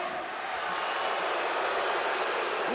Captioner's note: crowd boos